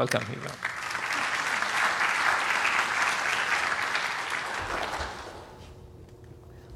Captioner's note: applause